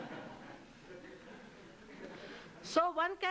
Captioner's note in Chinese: 笑聲